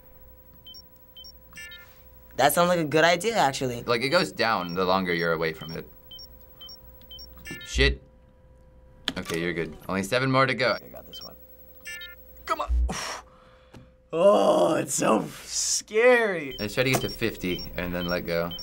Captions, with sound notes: (beeping) That sounds like a good idea actually. - Like, it goes down the longer you're away from it. (beeping) Shit. Okay, you're good. Only seven more to go. - I got this one. Come on. (exhales sharply) Ohhh, it's so scary. - Let's try to get to 50 and then let go.